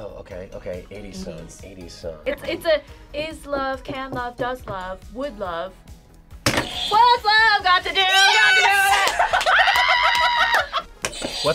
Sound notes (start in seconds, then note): 6.5 buzzer thuds; 8.4 laughing; 9.5 screaming